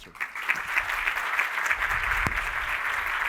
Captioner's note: applause